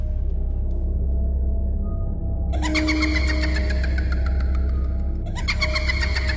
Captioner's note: ghost laughing